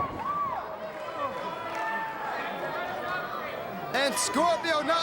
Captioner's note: crowd chatter